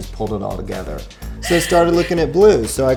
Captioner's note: laughs